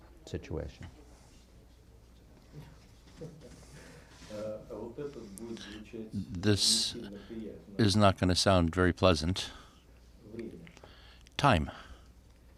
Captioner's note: through translator